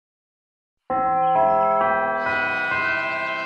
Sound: bell chimes

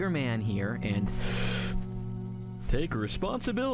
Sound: dramatic music; deep inhale

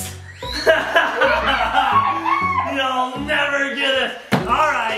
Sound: laughs

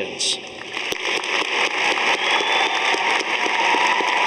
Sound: audience applauding

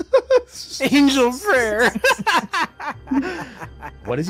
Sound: laughs

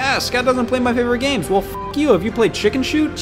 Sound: beep

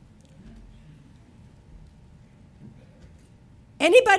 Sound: audience members chattering

